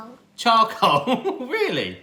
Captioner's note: laughing